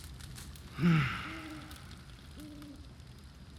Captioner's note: sighs